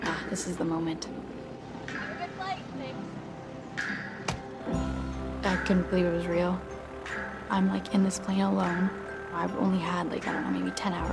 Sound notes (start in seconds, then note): 4.3 door shuts